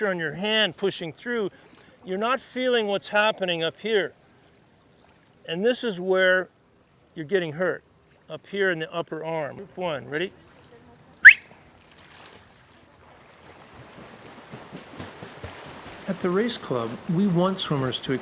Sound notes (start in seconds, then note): 11.2 sharp whistle